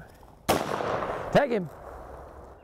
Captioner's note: gunshot firing